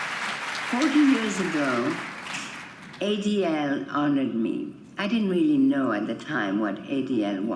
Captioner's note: applause